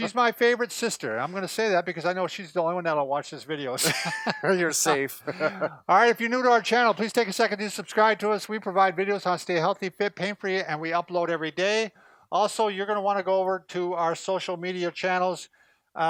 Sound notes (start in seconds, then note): 3.8 both Chuckling